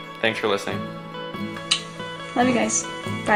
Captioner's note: blows a kiss